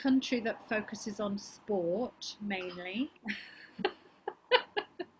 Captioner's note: laughs